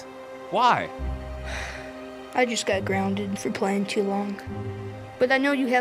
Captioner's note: sighs